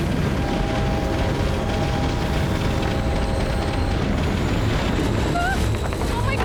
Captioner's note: screeching and rattling